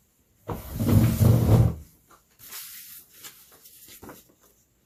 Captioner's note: chair drags